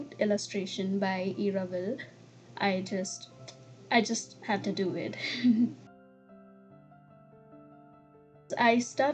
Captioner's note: giggles